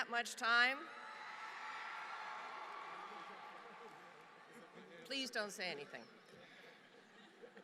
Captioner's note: applause